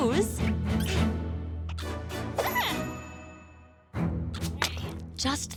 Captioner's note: caterpillar noises